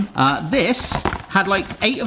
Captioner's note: box rattles